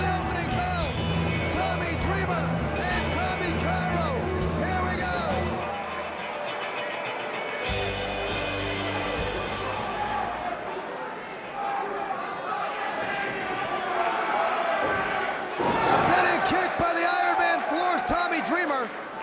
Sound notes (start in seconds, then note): 10.0 crowd chatter; 11.9 crowd cheering